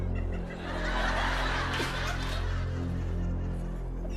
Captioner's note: laughter